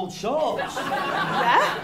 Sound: laughter

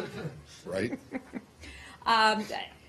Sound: laughter

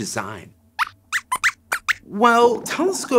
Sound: squeaks squeaks

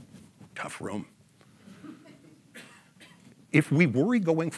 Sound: audience laughs

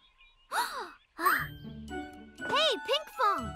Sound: exclaims

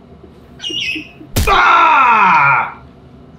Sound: eagle screeching

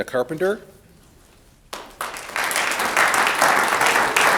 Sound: audience applauds

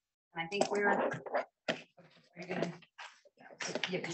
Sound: people chattering

